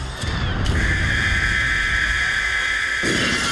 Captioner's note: alarm blares; rock music